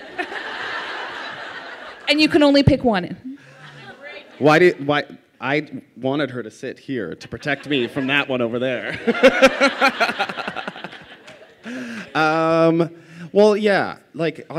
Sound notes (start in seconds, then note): 0.0 laughter; 9.6 laughter